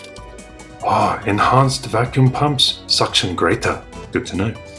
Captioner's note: Chinese accent